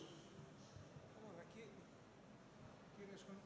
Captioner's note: background chatter